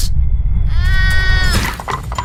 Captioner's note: rumbling intensifies